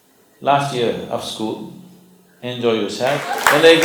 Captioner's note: applause